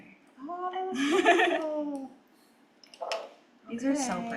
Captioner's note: laughs